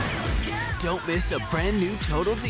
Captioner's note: screaming